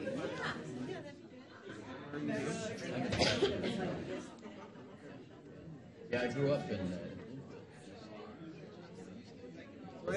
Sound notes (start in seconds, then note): 2.0 audience chatter; 8.7 speaking faintly